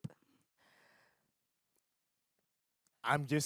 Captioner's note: exhales